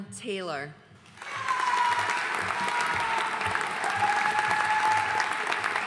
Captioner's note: audience cheering and applauding